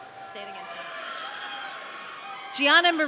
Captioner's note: audience cheering